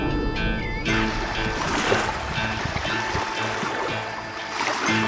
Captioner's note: water splashing